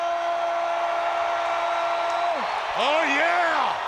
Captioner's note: crowd cheering